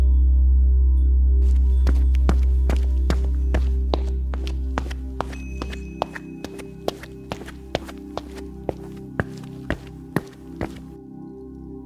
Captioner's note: running sounds and rustling